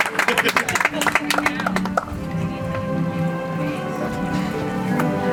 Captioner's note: audience applauds